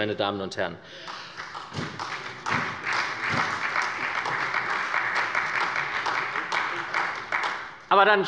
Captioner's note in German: Beifall bei der SPD